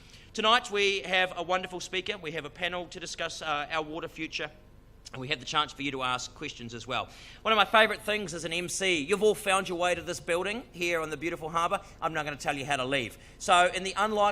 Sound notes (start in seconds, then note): none